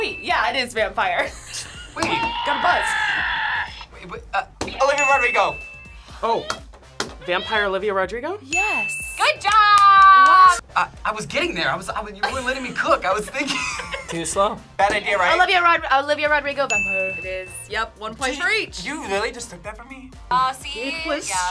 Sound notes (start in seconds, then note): 4.0 buzzer roars; 4.8 bell rings; 6.5 buzzer whoops; 16.6 bell dings